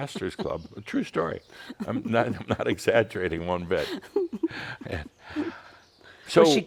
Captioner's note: continues giggling; they’re both chuckling